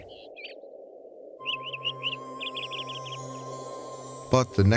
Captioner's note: gentle music; birds chirping